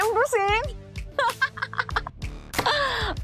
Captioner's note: laughs